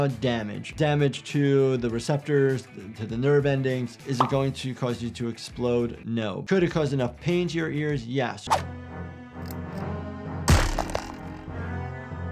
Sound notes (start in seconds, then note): 8.5 dramatic music; 8.9 graphic whooshes; 10.6 spring boings; 11.4 dramatic music